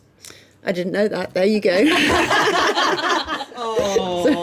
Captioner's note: laughing